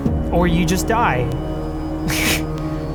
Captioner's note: laugh